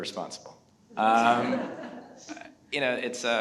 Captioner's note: everyone laughs